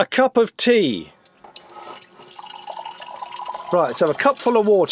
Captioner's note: water dribbling